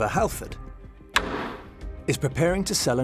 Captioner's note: gavel bangs